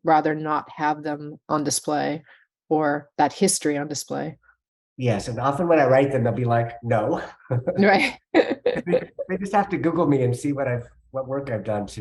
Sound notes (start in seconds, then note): 8.4 chuckling